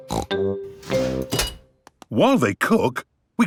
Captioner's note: beeps